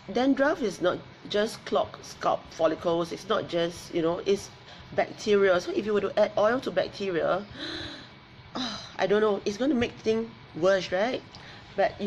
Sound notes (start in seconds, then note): 7.6 gasps